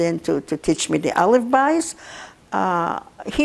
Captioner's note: yiddish